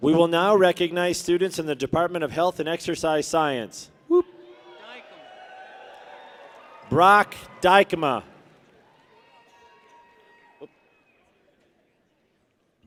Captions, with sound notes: We will now recognize students in the Department of Health and Exercise Science. Woo! (people cheer) Brock Dykema. (people cheer)